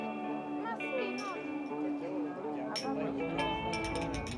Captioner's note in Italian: musica vivace; chiacchierio di persone; cin cin con i bicchieri